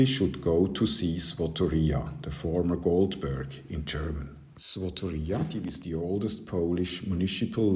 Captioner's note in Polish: po niemiecku